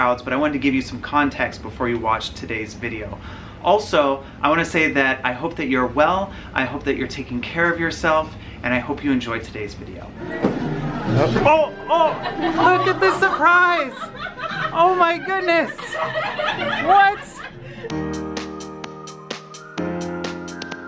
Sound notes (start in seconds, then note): 14.4 laughs; 17.7 upbeat music